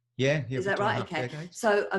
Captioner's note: voice muffled